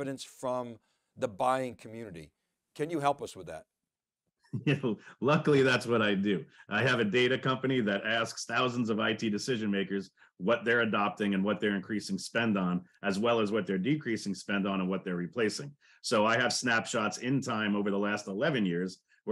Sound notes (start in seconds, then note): 4.5 laughs